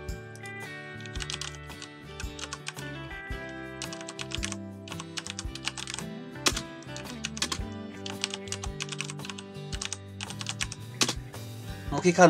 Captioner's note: typing Sound